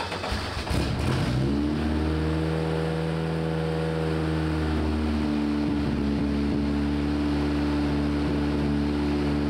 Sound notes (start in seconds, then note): 0.0 engine turning over; 2.9 engine revving